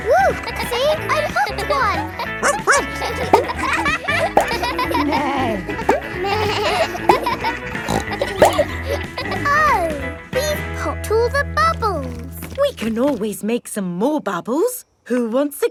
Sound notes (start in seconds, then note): 0.7 kids laughing; 2.4 barks; 5.4 bleats; 5.4 neighs; 8.3 snorts